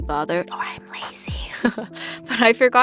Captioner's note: whispers